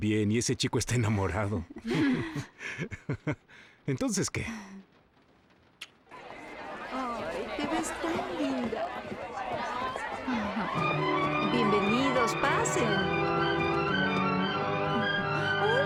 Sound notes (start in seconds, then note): 1.7 chuckling